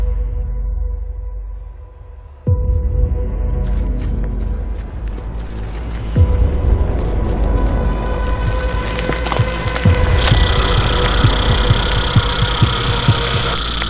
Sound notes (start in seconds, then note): 4.2 sounds of cicadas digging to surface